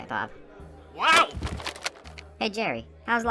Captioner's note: Bob yells